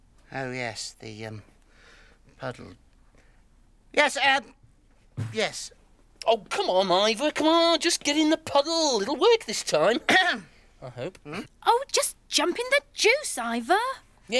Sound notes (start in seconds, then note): 9.9 coughs